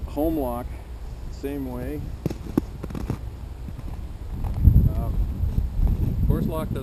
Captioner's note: crunch, crunch, crunch